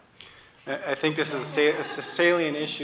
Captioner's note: laughter